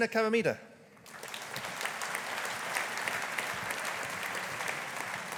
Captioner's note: audience applauding